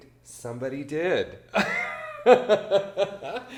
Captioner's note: laughs